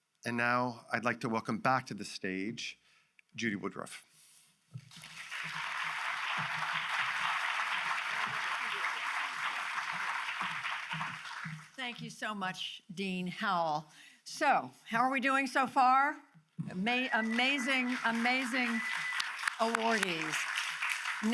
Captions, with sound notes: And now I'd like to welcome back to the stage Judy Woodruff. (audience applauds) - Thank you so much, Dean Howell. So how are we doing so far? Amazing, amazing awardees. (audience cheers and applauds)